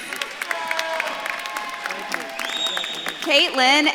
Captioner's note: audience claps and cheers